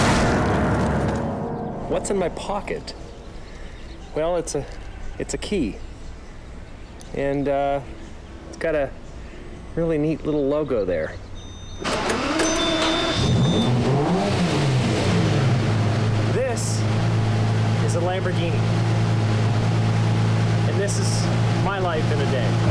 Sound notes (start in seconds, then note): 11.8 engine turning, revs